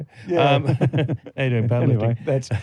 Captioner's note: laughter